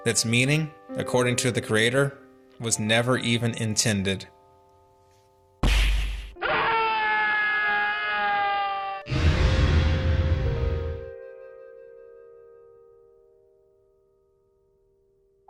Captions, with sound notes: That's meaning, according to the creator, was never even intended. (gunshot) (screaming) (dramatic music)